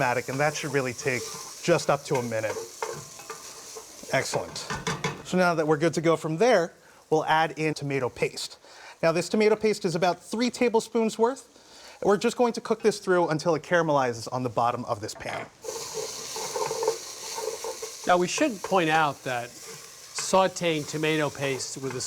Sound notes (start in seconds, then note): 15.6 sizzling